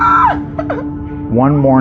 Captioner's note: girirl l squeuealining